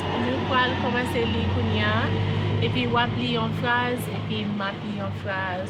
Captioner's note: person speaking in Creole